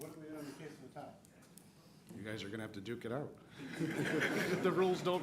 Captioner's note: laughter